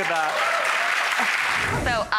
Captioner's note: audience clapping